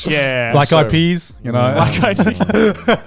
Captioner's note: laughing